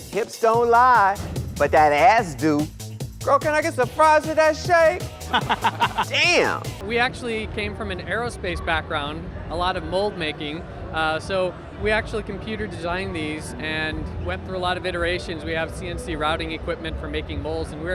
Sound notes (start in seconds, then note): 5.2 laughter; 6.8 air whooshing